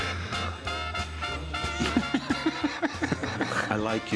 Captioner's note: laughter